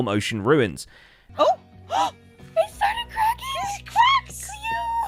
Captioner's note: gasps; squealing